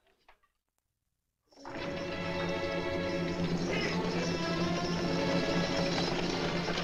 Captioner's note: carriage Approaching